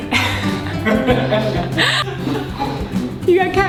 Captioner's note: laughing